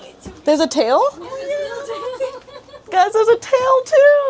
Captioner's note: laughter